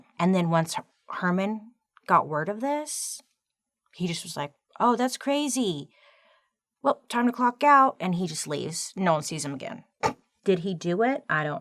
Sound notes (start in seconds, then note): none